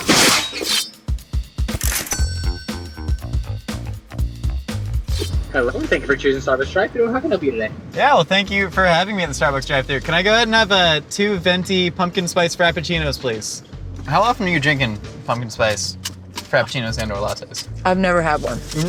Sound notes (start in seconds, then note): 0.0 clanging; 1.8 cash register clinging; 2.2 bass guitar music